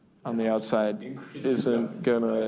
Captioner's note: laughs